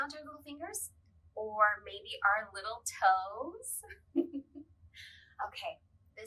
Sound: laughs

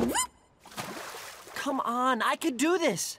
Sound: splash

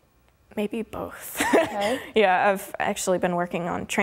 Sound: laughs

